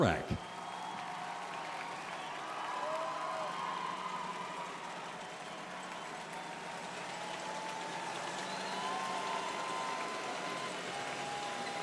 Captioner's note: cheers and applause